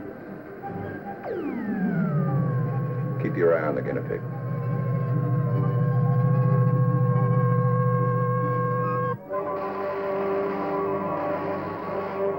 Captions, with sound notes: [machine humming] Keep your eye on the guinea pig. [zapping]